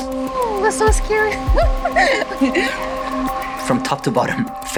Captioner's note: laughs